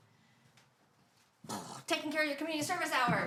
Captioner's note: makes explosion sound